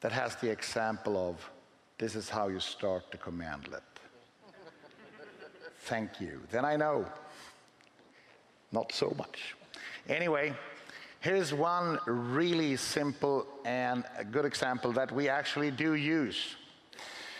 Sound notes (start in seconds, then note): 4.4 laughing